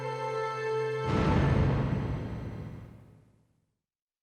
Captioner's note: dramatic music; logo thuds